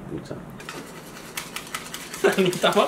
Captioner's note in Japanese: 卵をとく音